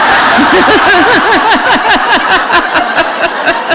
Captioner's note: laughter